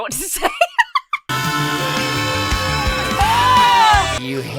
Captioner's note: laughs; Carp screams melodically